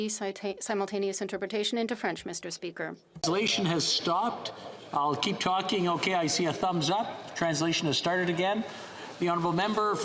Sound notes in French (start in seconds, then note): 2.1 voix de l'interprète